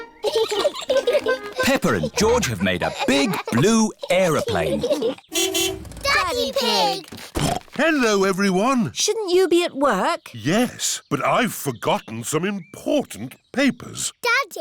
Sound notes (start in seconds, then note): 0.2 both giggling; 5.3 horn honks; 7.8 snorts